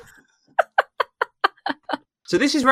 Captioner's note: laughs